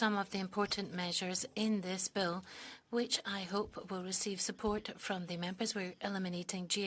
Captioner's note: speaking French